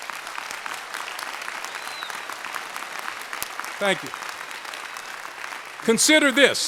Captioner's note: applause